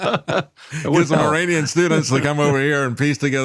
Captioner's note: laughing